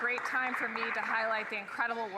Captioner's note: some Applause